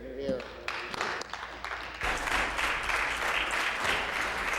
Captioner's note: crowd